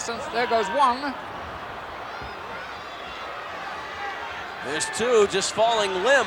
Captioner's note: applause